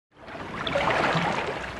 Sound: water, rushing

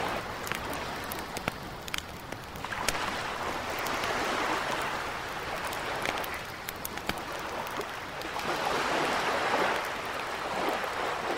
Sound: leña chispeando

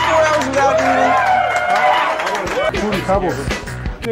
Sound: cheering

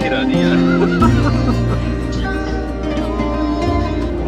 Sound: laughters

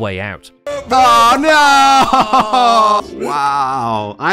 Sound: disappointed noises

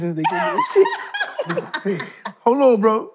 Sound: laughing

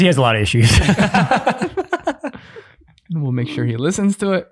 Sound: group chuckling

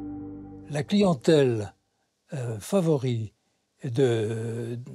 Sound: French spoken audio

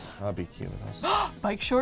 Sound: gasps

